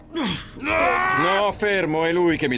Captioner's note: grunting; barbaric snarls